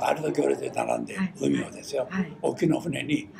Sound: foreign language

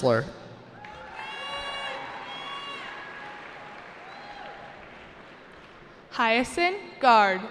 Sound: cheering

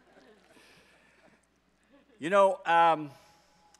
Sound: audience laughs

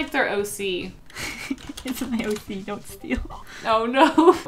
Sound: laughs

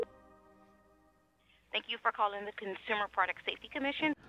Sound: female on phone

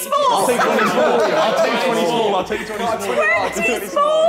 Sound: all laughing

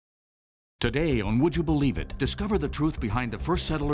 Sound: voiceover

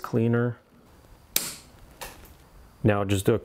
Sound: tie wraps snapping

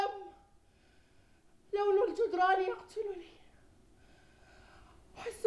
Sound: non-english speech

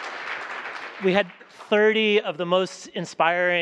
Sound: applause

